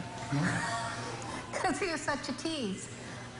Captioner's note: laughs